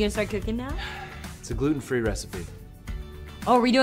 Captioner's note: sighs